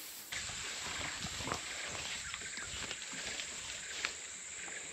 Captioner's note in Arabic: حفيف الأوراق